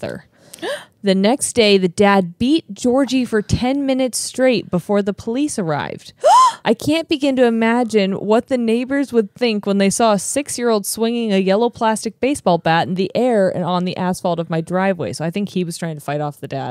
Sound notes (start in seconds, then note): 0.3 gasps; 6.2 gasps